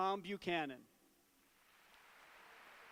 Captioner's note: applause